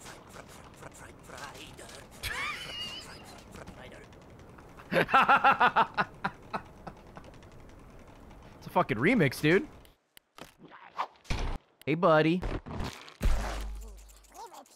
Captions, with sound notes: (laughs) It's a fricking remix, dude. Hey buddy.